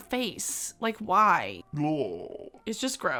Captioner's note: groans